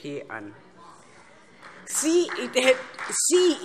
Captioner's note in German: Vereinzelter Beifall Freie Demokraten